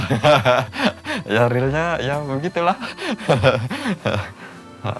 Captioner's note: laughs